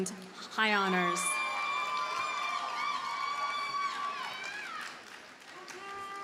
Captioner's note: audience cheers and applauds